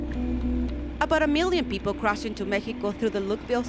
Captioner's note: voiceover